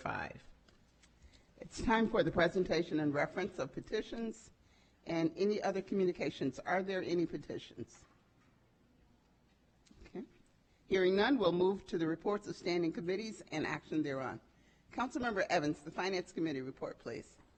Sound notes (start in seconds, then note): none